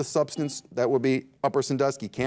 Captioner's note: buzzer dings